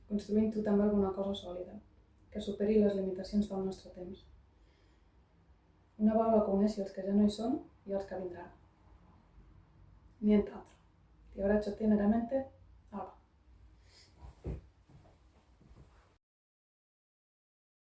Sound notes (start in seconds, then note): 10.1 in Italian